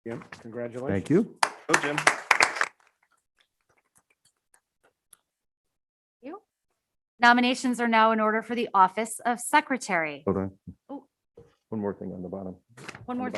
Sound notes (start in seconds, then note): 1.4 members applaud